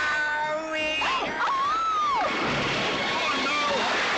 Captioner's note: Kate screams